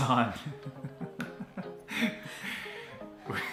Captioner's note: laughter